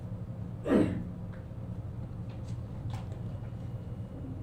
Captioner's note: student coughs